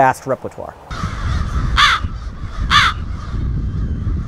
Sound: crows cawing

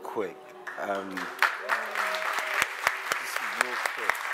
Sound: applause

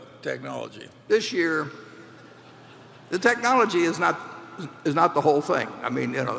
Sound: laughter

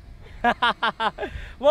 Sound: laughing

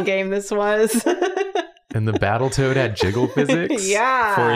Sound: laughs

